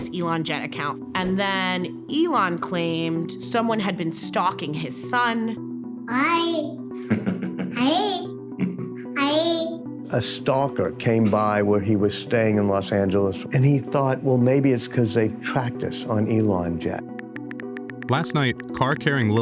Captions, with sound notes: And then Elon claimed someone had been stalking his son. >> Hi, hi, hi! >> (chuckling) >> A stalker came by where he was staying in Los Angeles, and he thought, well, maybe it's 'cause they've tracked us on ElonJet. >> Last night, car carrying lil X in L.A.